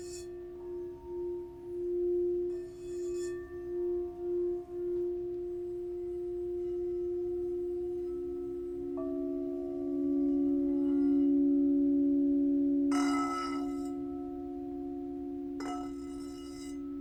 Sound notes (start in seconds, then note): 12.8 bell dings